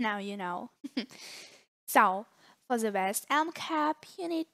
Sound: giggle

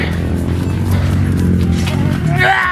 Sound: motorcycle engine roaring; panting; wails

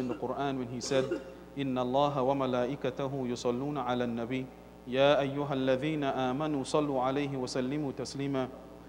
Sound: Arabic

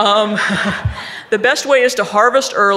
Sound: audience laughing

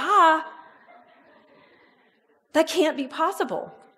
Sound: audience laughs

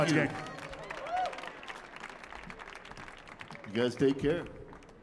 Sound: audience cheering

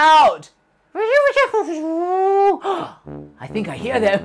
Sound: speaking elvish

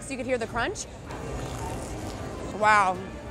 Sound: food crunching

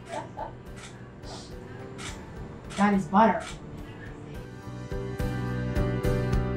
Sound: laughs

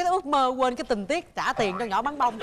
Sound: laughing

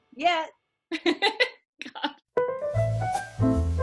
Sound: woman laughing; upbeat music

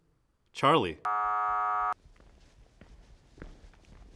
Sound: buzzer buzzing; footsteps approaching

